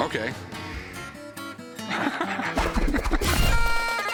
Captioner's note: laughs; bagpipe music